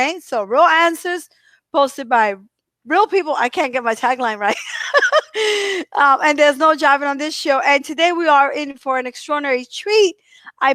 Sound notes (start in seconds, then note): 4.5 giggles